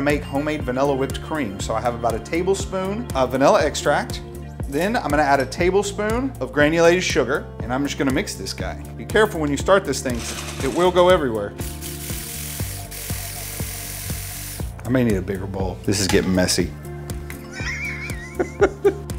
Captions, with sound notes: make vanilla whipped cream. So I have about a tablespoon of vanilla extract, then I'm gonna add a table soon of granulated sugar and I'm just gonna mix this guy. Be careful when you start this thing it will go everywhere. (mixer starts) I make need a bigger bowl, this is gettin' messy. (laughing)